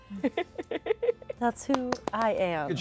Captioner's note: giggles